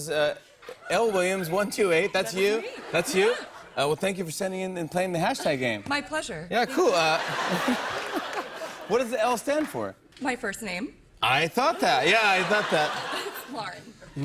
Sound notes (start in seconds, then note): 6.6 laughter